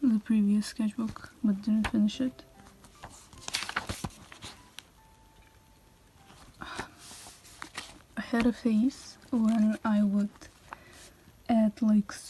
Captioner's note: sigh